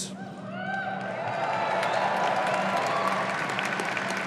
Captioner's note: audience cheering